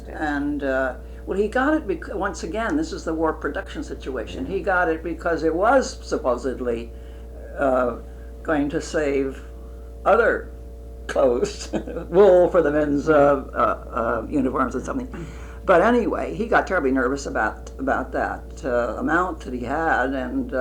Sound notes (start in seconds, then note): 11.2 laughs